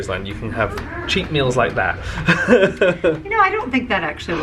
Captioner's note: laughing